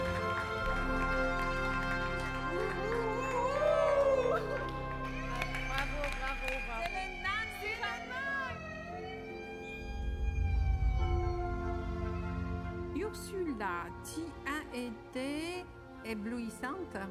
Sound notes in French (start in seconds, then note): 0.3 applaudissements; 2.2 cri de guerre; 7.0 alarme